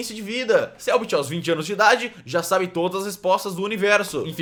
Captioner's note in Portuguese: sarcasmo; sarcasmo